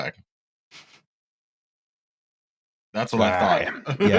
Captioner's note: a silence the length of Rocz' answer